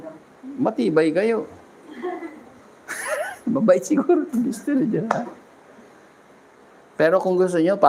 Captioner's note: laughter